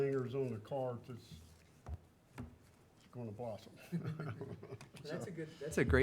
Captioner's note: laughing